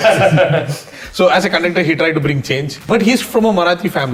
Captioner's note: teehee!